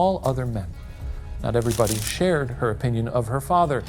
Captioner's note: paper crinkling